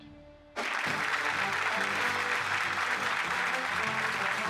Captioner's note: crowd applauding; show music playing